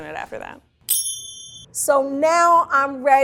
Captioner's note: bell chimes